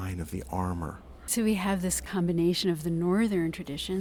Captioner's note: voiceover